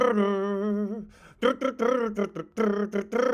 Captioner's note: imitates drumming